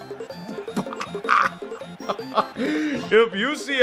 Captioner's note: cackles in disbelief